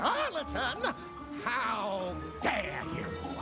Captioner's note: gasps